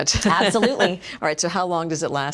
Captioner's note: laughs